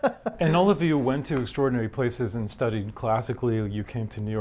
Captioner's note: laughs